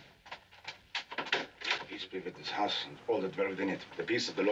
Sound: knocking

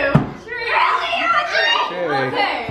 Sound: excited chatter

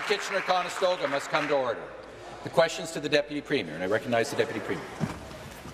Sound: applause

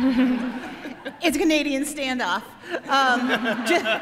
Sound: all laughing

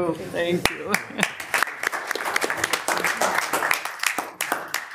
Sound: audience applauding

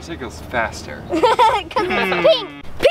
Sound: giggling

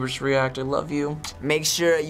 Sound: smooches

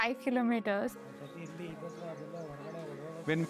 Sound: chatter

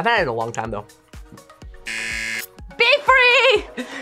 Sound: buzzer

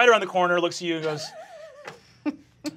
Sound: giggling

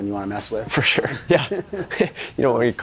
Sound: laughing

